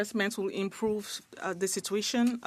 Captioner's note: speaking French